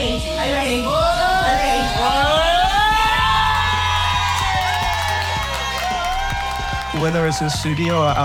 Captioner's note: cheering